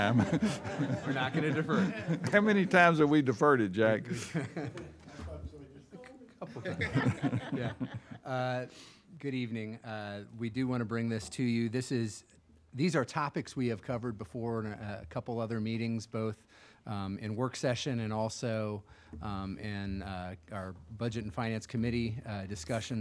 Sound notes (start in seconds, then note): 0.0 audience laughs; 6.4 laughing